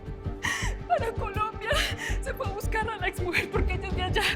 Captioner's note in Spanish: Sollozos